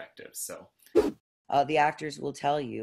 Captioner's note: whoosh